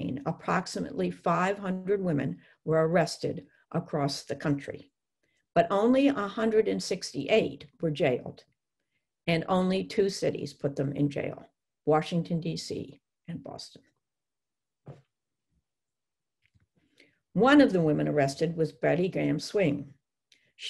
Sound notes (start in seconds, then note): 14.6 silence